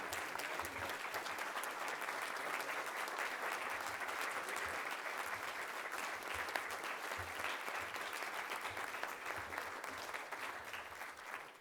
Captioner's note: applause